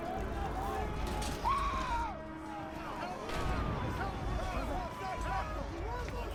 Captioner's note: crowd yelling, screaming